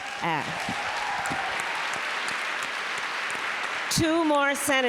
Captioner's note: applause